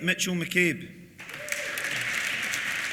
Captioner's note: applause